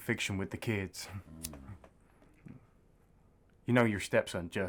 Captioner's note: Marty grunts